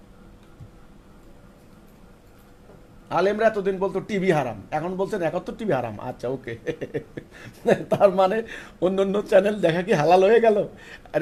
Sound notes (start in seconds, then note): 6.4 chuckles